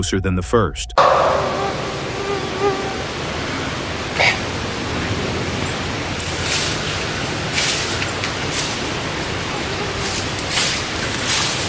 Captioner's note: original source audio: late vocal-like sound and apparent impact